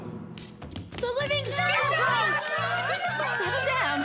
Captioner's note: panicked cries